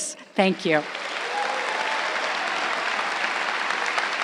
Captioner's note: crowd applauding